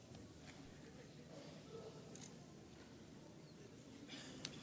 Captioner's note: camera clicks